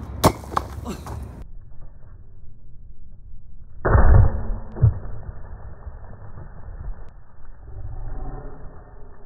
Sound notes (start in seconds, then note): 0.2 anvil hits stone; 1.1 laughs; 3.8 anvil hits stone